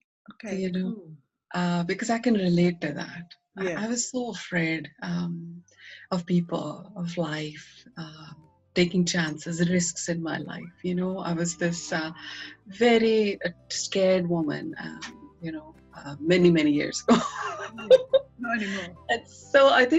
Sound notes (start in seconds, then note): 17.2 laughing